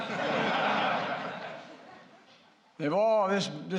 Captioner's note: laughter